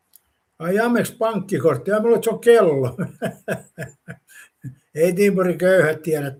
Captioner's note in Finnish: naurua